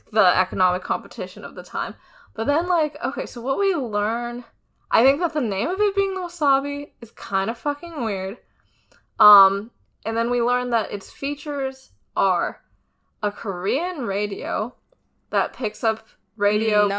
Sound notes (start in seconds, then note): none